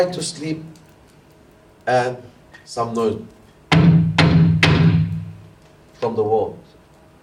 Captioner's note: knock